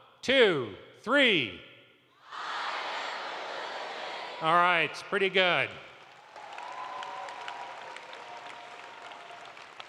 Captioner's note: cheering